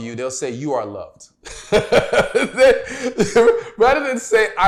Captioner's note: laughs